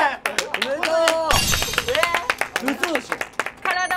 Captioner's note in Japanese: 拍手